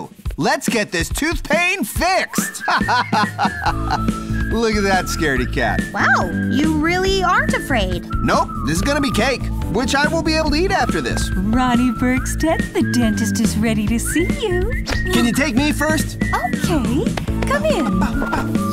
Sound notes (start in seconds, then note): 2.4 laughs